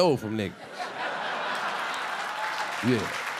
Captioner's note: audience laughing and clapping